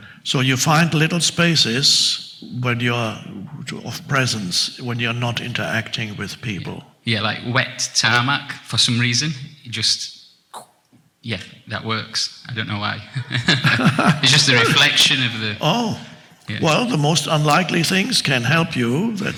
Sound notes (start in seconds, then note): 13.1 chuckles